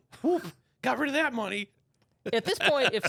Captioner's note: laughs